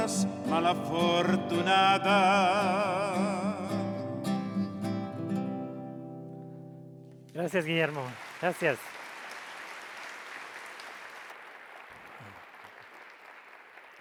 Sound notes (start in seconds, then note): 9.1 audience applauds